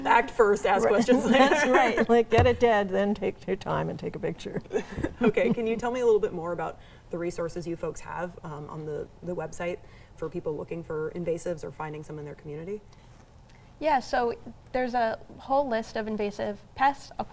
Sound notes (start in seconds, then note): 1.4 laughs